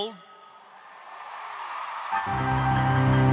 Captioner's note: applause